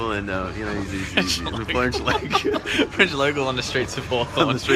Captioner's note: laughter